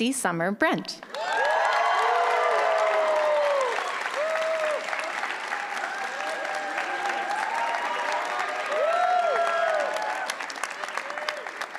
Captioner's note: applause